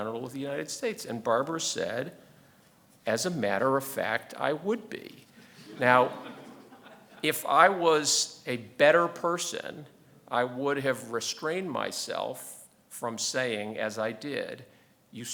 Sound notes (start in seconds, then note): 5.6 audience laughing